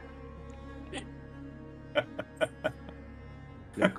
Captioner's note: laughter